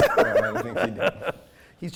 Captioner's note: laughing